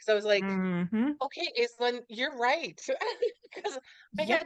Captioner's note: laughs